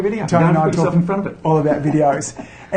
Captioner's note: laughs